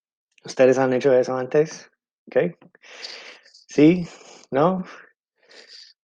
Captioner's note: speaking in foreign language